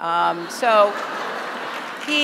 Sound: laughter; applause

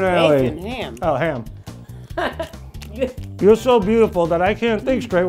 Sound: laughter

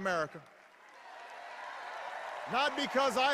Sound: cheers

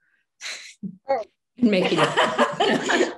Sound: laughing

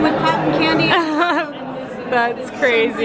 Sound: laughing

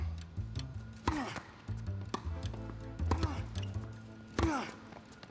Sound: Marshall grunting; ball bouncing

